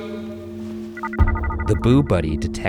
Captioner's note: device trilling